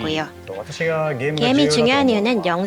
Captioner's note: non-english speech